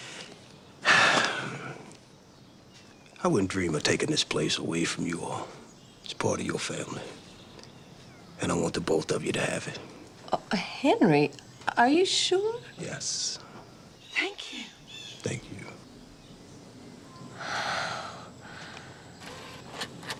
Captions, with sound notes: (Henry sighs) I wouldn't dream of taking this place away from you all. It's part of your family, and I want the both of you to have it. - Henry, are you sure? - Yes. - Thank you. - Thank you. (Wanda sighs)